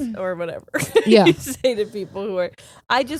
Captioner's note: laughing